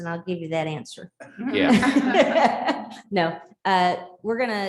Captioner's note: laughter